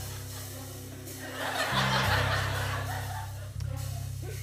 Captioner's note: laughter